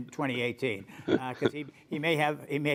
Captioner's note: laughter